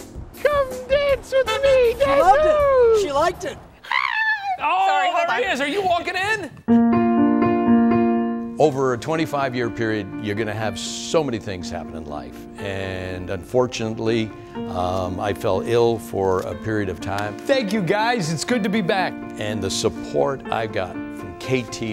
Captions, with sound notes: Come dance with me. (cars honking) She liked it. (shrieked) - Oh there he is are you walking in. (gentle music) - Over a 25 year period. You're gonna have so many things happen in life. And unfortunately I fell ill for a period of time. Thank you guys. It's good to be back. And the support I got from KTLA